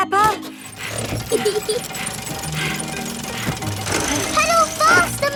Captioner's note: mummy pig panting; peppa laughing